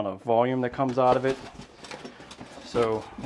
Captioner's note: box crinkles